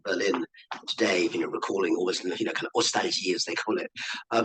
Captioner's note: speaking in foreign language